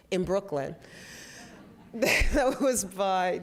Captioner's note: laughter